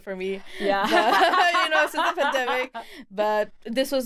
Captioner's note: laughs